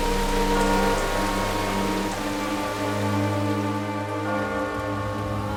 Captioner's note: bell tolling